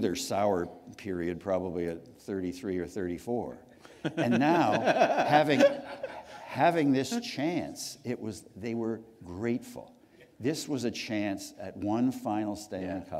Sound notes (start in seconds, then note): 4.0 laughter